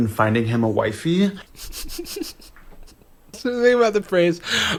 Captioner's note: laughs